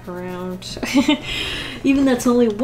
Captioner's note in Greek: Γέλια